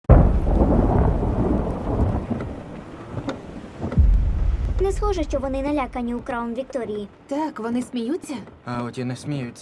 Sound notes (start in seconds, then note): 0.0 thunder rumbling